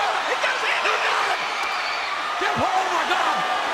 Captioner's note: crowd cheering